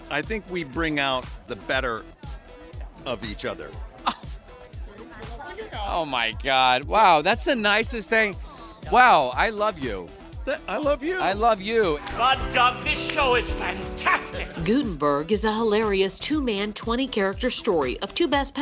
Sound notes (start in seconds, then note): 4.0 gasps